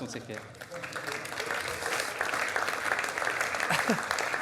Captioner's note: audience applause